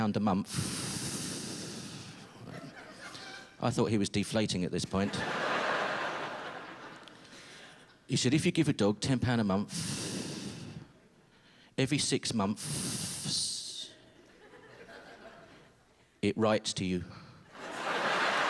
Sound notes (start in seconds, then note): 0.4 exhales; 5.0 laughter; 9.7 exhales; 17.6 sustained howling laughter